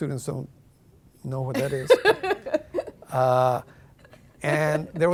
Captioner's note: laughing